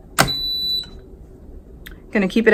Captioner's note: lid beeping